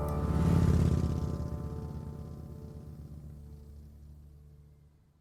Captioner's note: motorcycle engine revs